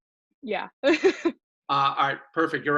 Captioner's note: laughs